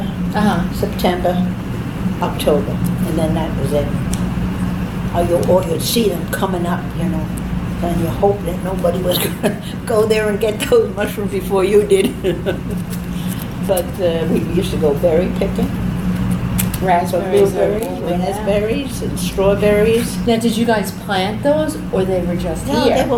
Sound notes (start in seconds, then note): 11.9 laughs